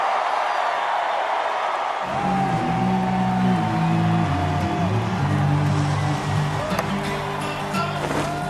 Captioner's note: cheers and Applause